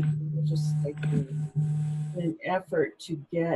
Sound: static drowns out sound

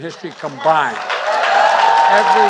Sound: applause

